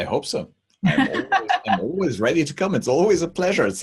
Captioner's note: host laughs